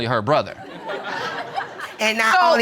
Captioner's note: audience laughing